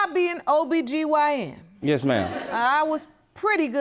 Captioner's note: audience laughing